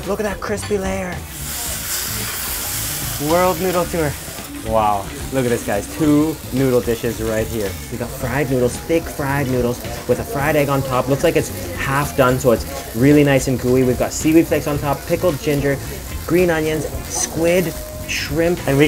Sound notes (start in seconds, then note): 1.6 food sizzling